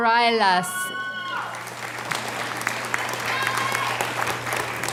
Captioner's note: audience cheers and applauds